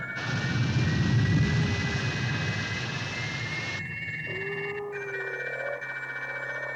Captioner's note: geyser rumbling; crystal warbling